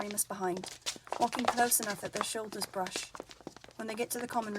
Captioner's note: footsteps